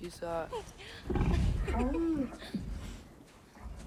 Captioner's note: laughs